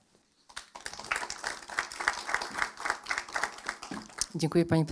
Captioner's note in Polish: oklaski